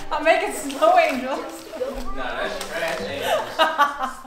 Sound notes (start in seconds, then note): 3.2 laughing